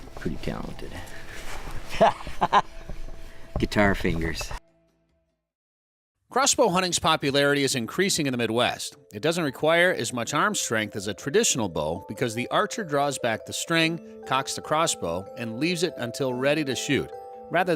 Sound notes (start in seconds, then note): 1.9 laughing